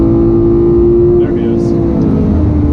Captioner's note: 9,000 RPM sound check